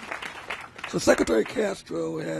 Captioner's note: applause